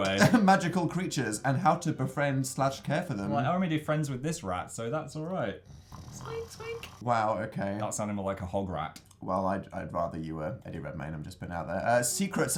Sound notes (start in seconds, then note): 0.0 chuckles; 5.6 snorts